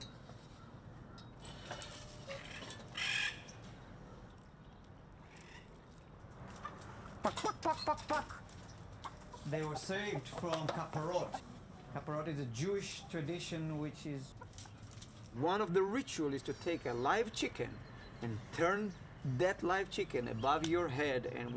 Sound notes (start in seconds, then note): 2.9 parrot squawks; 7.1 clucks; 9.0 chickens clucking